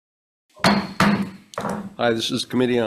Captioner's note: gavel bangs